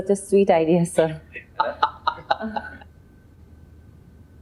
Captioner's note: laughing